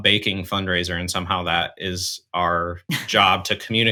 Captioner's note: chuckles